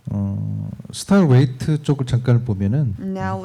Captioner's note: speaking korean